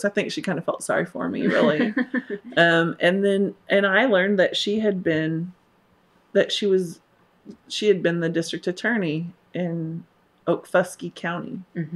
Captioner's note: laughter